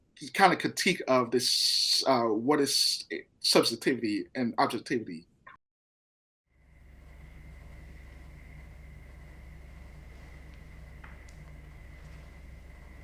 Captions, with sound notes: these kind of critique of this, what is subjectivity and objectively. [steady white noise] [faint rubbing against carpet, short crackling pops]